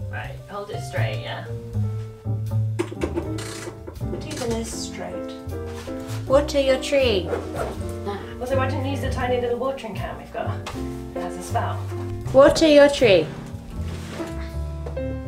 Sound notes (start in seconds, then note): 3.7 tree stand clomping